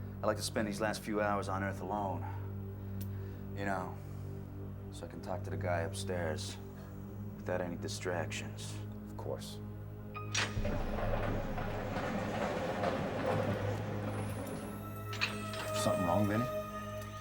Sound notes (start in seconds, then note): none